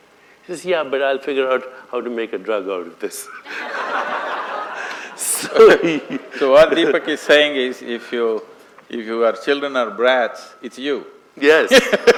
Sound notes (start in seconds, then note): 3.4 laughter; 10.1 laughs; 11.7 laughter